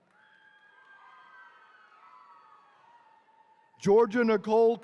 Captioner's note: attendees cheering